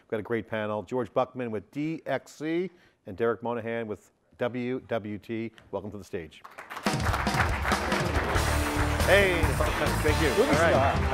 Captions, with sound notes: We've got a great panel, George Buckman with DXC and Derrick Monahan with WWT, welcome to the stage. (Audience applauds) >> Hey >> Thank you